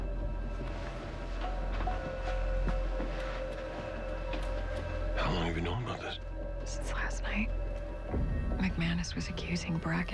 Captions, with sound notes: IT WAS FROM McMANUS. (lowered voice) HOW LONG HAVE YOU KNOWN ABOUT THIS? (lowered voice) SINCE LAST NIGHT.